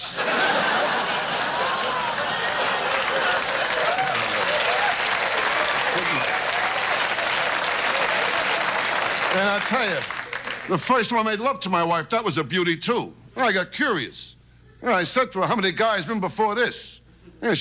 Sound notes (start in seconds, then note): 0.3 audience laughs; 3.0 audience cheers